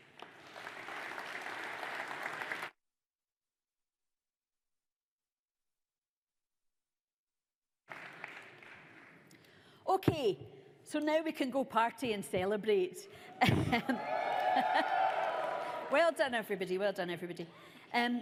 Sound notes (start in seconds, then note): 0.0 audience applauds; 13.3 laughs; 13.8 audience cheers